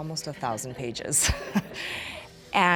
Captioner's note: laughter